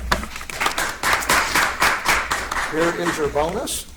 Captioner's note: audience applauds